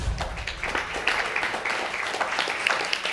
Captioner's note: audience applauds